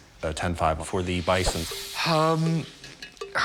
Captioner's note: sighs